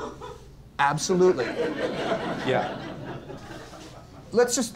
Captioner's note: laughs